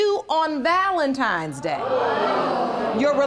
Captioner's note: audience groans